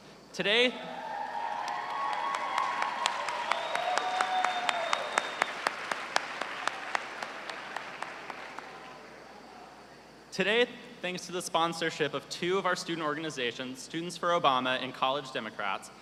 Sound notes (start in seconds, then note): 0.9 cheers and applause